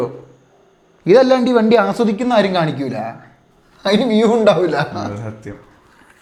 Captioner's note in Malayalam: പൊട്ടിച്ചിരി